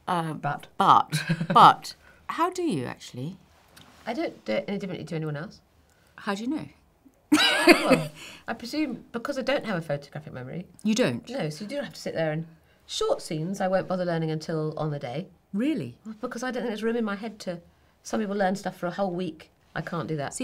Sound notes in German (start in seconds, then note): 7.4 lacht